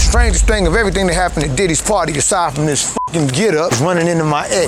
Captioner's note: beep